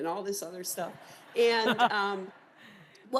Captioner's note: laughter